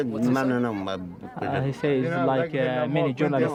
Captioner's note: speaking English